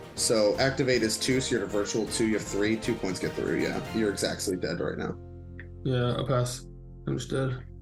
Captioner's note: none